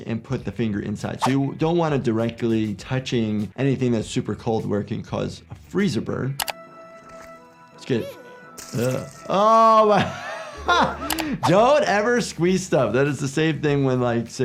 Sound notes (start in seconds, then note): 6.4 click; 7.8 laughs